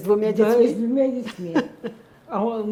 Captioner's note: laughing